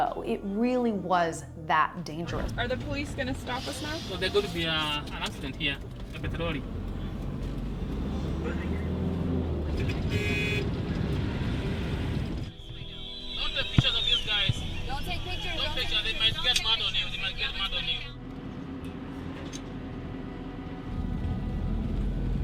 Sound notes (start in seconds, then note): 10.8 horns honking; 19.4 tranquil music